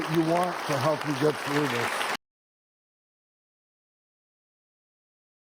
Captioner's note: applause